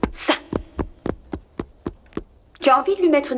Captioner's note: banging